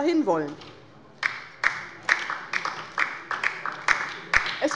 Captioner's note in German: Beifall bei der LINKEN